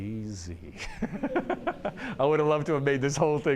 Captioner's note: laughs